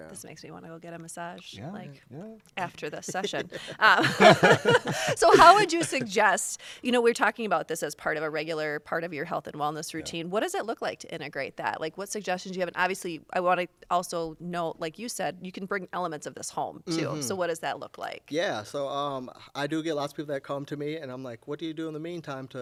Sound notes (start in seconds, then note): 2.9 laughter